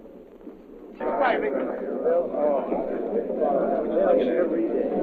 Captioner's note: sailors chattering